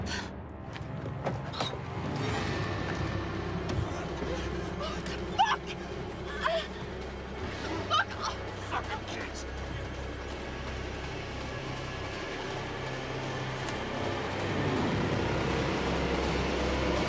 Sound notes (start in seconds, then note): 0.3 tense music; 6.2 Sophia groaning